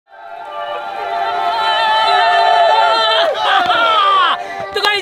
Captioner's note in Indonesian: Teriakan